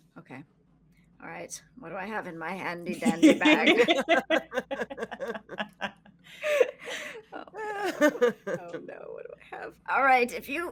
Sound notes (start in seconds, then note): 3.0 laughing